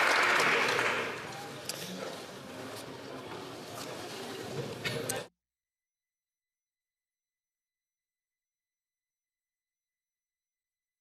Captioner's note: some Applause